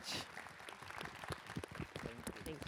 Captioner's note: applause